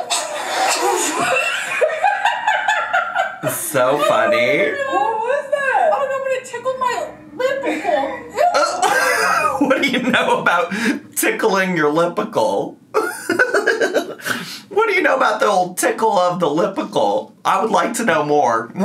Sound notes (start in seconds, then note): 0.8 laughs; 8.4 laughs; 12.9 giggles